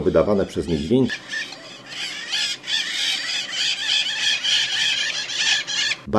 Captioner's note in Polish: krzyki papug